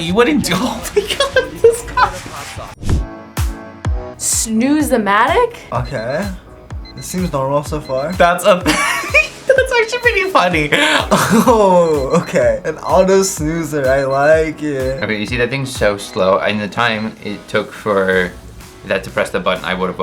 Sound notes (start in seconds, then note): 0.8 laughs; 3.0 upbeat music; 10.7 laughs